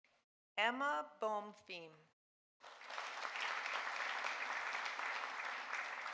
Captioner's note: audience applauding